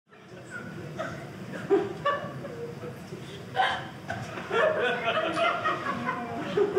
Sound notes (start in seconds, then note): 0.0 audience laughing